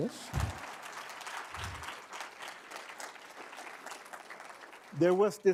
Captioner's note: applause